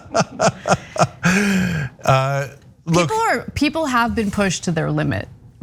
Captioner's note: laugh